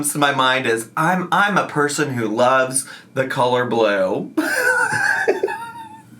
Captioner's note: laughs